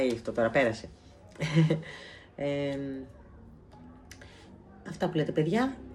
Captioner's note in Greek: γέλια